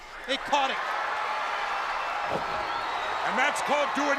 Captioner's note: crowd cheering